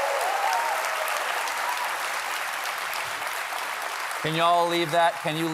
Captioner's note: applause